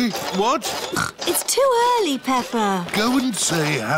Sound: snorts

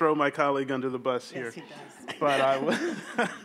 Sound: laughs

